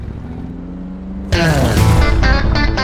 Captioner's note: engine revving; upbeat country music